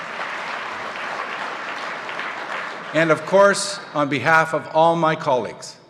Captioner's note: applause